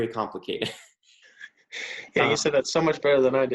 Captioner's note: sniggering